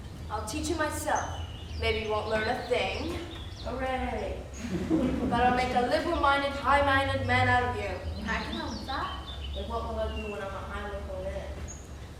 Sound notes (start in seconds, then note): 4.5 laughter